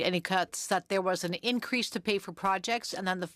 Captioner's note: speaking French